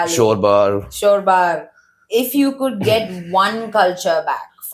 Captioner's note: clears throat